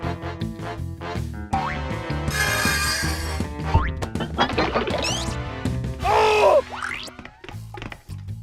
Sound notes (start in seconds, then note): 1.6 metal whirring